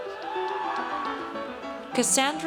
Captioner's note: audience cheers